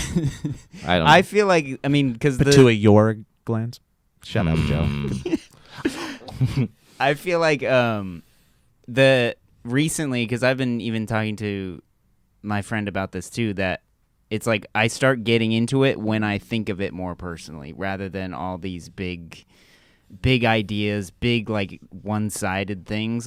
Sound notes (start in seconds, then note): 0.0 chuckles; 4.4 laughs